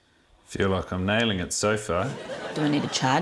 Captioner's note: laughter